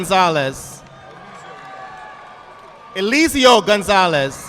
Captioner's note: audience clapping